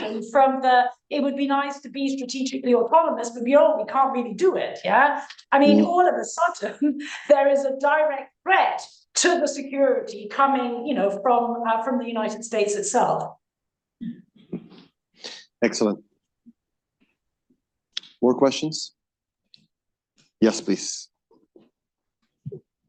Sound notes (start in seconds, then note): 5.7 laughs